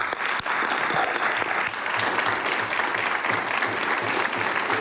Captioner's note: applause